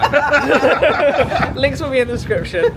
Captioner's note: group laughing